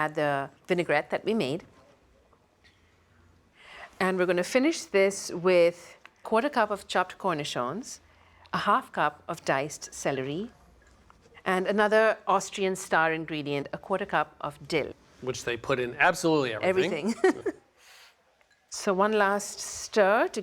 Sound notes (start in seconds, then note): 16.8 laughs